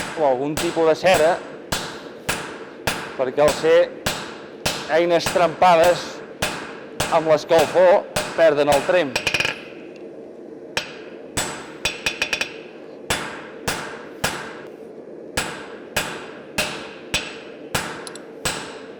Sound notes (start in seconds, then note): 2.2 metallic hammering; 10.7 sharp metallic hammering